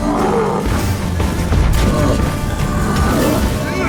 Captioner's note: roar; groan; thunderous boom; grunt